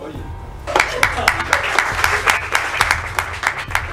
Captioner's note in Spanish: Aplauso